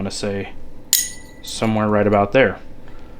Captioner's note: magnet clicking